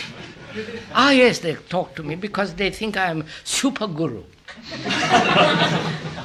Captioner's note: laughter